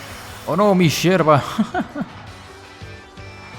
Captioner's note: laughs in no Terrain